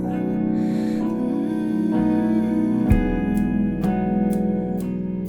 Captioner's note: humming